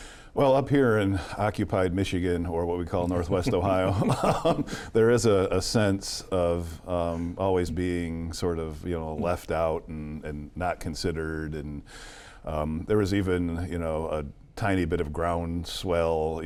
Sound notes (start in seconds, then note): 3.1 laughs